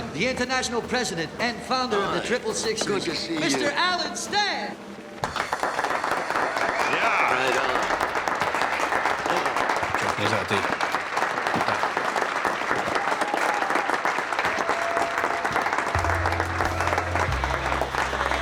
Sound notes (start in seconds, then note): 5.6 guests applauding; 13.4 guests cheering and applauding